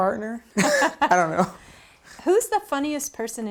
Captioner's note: laughs